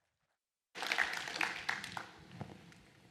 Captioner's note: applause